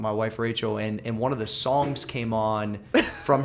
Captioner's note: laughter